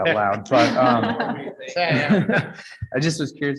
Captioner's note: all laugh